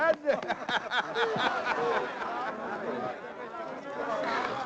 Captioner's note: people chattering